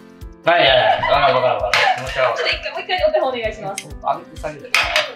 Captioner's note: laughs